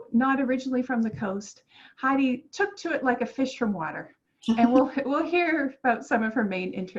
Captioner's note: laughter